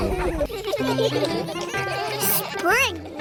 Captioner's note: giggling